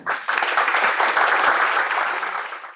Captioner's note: audience applauds